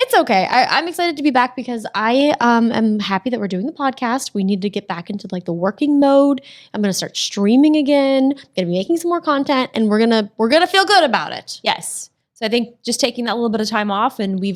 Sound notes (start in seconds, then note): none